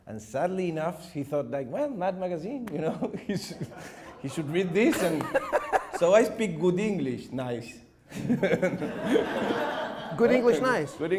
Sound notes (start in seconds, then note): 4.8 laughing; 8.2 audience laughing